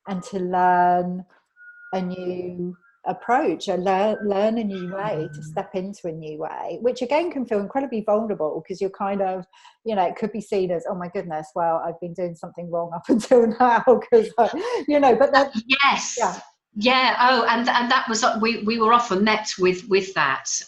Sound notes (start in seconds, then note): 14.3 laughs